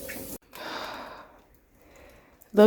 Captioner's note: exasperated sigh